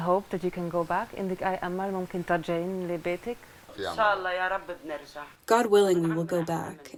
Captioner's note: through translator